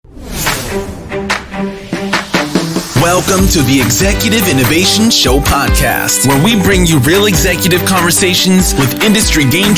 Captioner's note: automated Voiceover